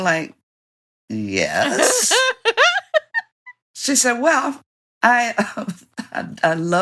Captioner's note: Ms. Bev laughs; laughter